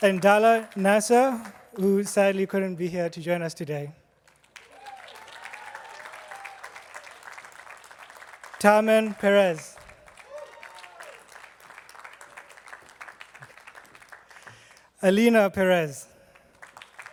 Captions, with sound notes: And Dala Nasser, who sadly couldn't be here to join us today. (attendees clapping) Tamen Pérez. (attendees clapping) Alina Perez.